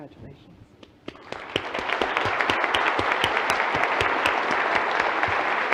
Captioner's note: audience applauding